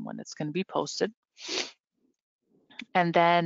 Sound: snuffles

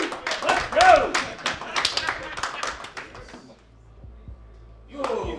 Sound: group clapping and cheering; group clapping

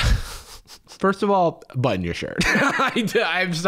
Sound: laughs

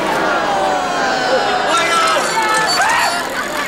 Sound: crowd groaning

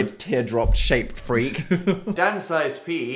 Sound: laughs

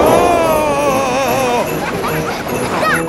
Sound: screaming; children laughing

